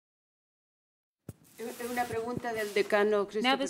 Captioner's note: speaking spanish